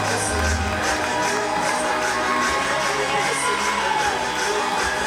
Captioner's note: audience cheering; hip-hop music continues